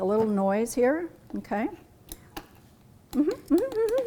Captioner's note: humming